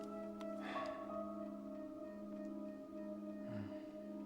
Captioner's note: Mack sighs